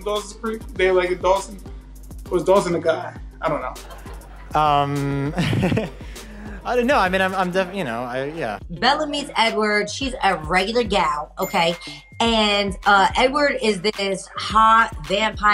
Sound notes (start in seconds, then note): 3.7 audience laughing; 3.7 nervously laughing; 11.4 bell dings